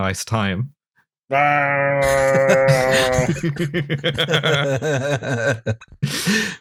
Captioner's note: lion in vacuum cleaner noise/Chewbacca orgasm noise; laughter